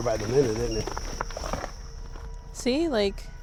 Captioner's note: EMF beeps